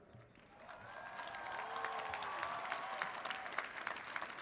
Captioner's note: audience applauds